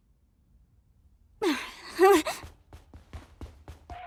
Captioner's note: groans, exclaims softly